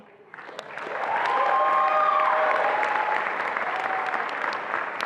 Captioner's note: attendees applauding and cheering